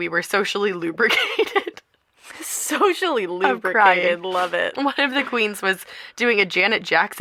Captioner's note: laughter